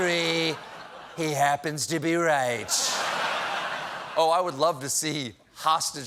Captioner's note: laughter